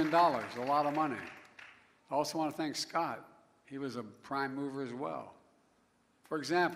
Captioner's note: applause